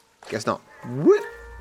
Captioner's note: none